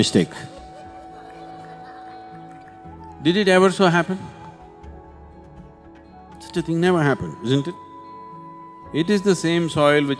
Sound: laughter

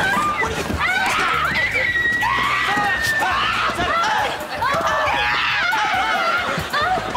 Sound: screaming

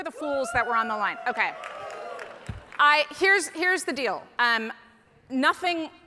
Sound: audience cheering

